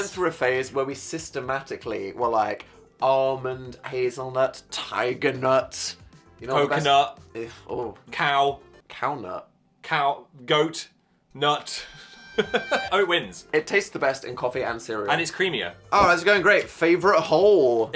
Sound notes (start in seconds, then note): 11.8 laughing